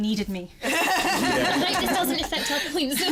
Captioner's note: laughs